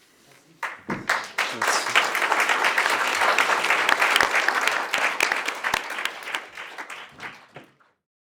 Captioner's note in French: Applaudissements